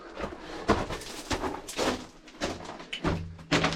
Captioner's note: thumping